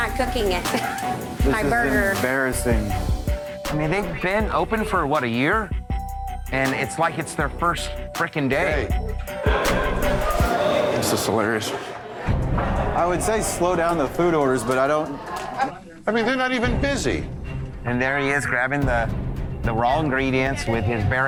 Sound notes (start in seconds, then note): 0.6 laughing